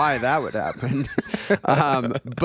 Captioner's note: laughing